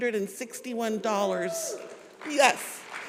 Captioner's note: congregation cheers